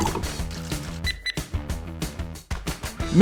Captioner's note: beep beep